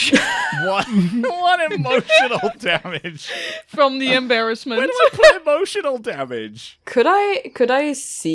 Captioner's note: laughter; laughing